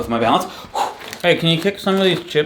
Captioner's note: breathing heavily